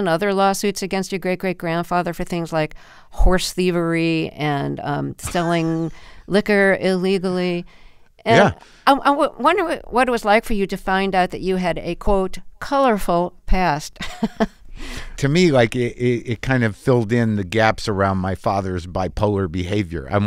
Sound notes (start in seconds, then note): 14.0 laughter